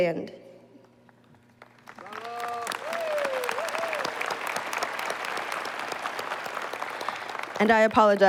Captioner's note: applause